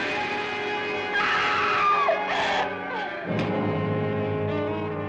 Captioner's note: Sheila screaming